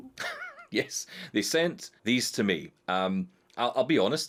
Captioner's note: laughs